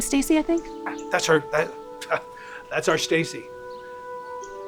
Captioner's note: scoffs